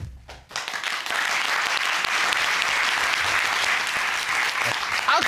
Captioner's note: cheers and applause